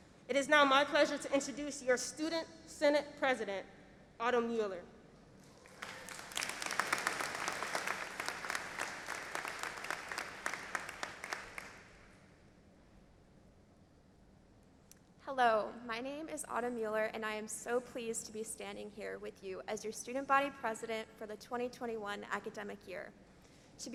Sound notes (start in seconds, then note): 5.5 audience applauding